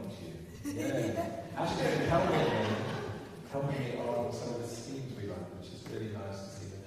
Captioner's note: laughs